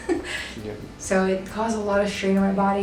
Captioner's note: chuckles